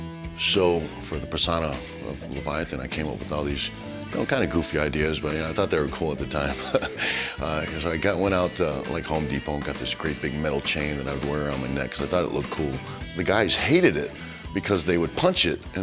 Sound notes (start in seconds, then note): 6.5 laugh